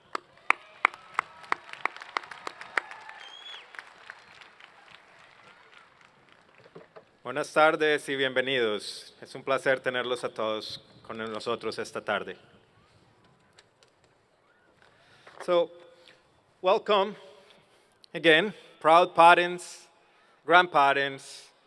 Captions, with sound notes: [Applause] [speaking spanish] So, welcome again proud parents, grandparents,